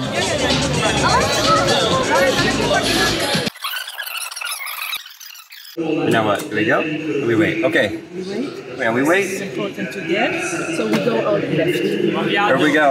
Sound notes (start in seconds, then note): 0.0 upbeat music; 2.6 video winding